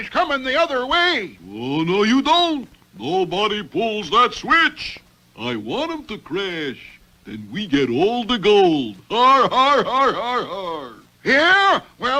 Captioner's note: Riff Laughs